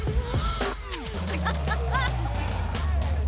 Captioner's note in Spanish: Risas